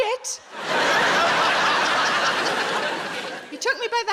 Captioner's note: audience laughs